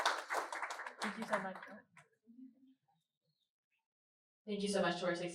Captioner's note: laughter and claps